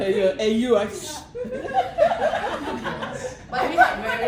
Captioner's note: laughter